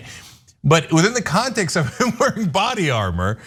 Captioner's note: laugh